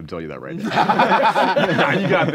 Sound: laughing

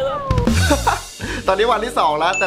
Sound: chuckles

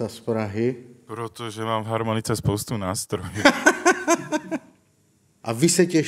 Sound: laughing

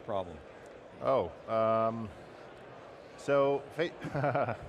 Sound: chuckling

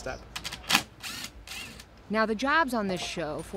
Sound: drilling

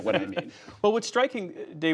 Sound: laughter

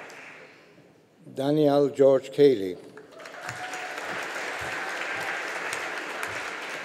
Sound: audience applauding

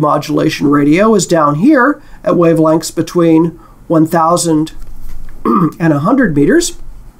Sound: cough

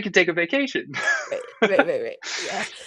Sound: laughing

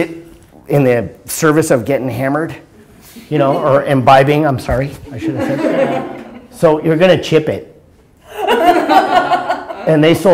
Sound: laughter

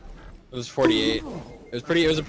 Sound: bonk Sound effect

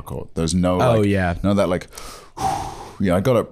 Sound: takes a deep breath

